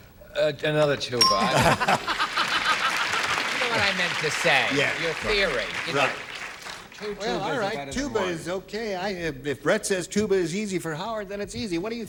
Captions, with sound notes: SORRY TO BLOW YOUR, YOU KNOW, THE THING THAT YOU DON'T. ANOTHER TUBA. [LAUGHTER] YOU KNOW WHAT I MEANT TO SAY, YOUR THEORY, YOU KNOW. WELL, ALL RIGHT, TUBA IS OKAY.